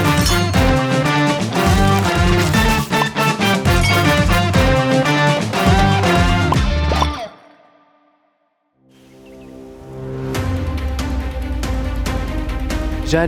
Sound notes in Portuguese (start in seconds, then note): 0.2 tilintar; 2.9 bolha estoura; 3.8 tilintar; 6.4 bolhas estouram